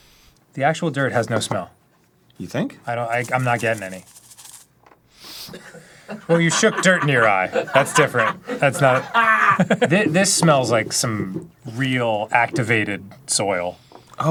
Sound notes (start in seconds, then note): 5.1 sniff; 9.1 cackling